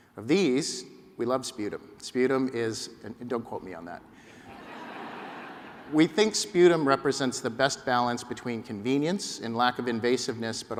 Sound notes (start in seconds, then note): 4.4 laughter